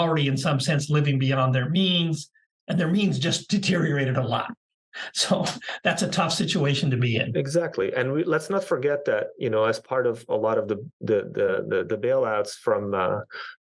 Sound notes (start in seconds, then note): 5.1 laugh